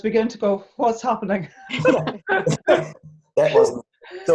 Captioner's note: chuckles